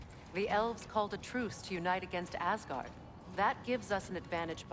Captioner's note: none